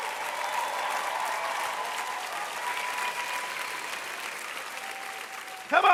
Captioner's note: cheers and applause